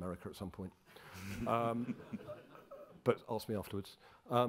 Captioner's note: crowd chuckling